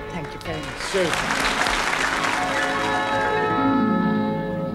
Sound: audience applauding

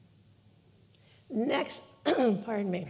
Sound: clearing throat

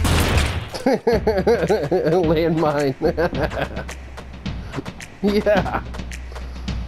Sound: laughing

